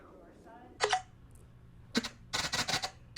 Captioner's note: sound of App starting up. Intermittent static noises